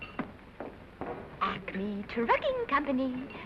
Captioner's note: chipper tone